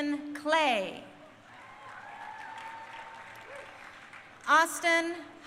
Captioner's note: crowd cheering